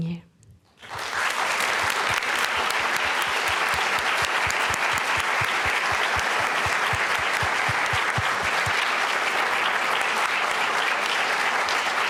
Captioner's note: applause & cheering